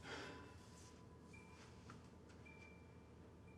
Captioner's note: Isaac sighs